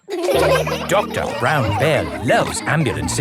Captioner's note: all laughing